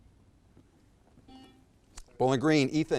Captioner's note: buzzer beeps